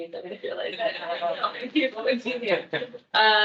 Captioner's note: attendees laughing